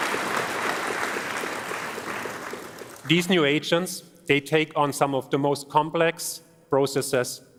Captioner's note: cheers and applause